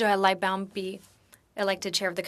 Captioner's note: speaking French